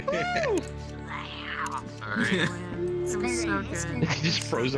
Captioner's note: cheering